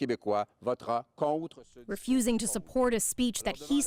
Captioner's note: speaking French